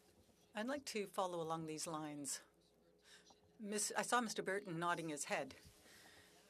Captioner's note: speaking French